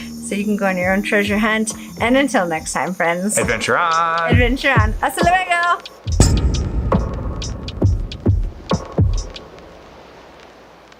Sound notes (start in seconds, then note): 5.2 speaks foreign language; 6.0 hip hop drum beat